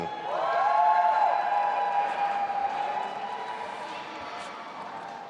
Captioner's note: audience applauding and cheering